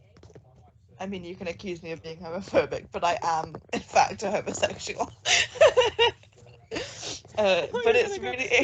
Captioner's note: laughs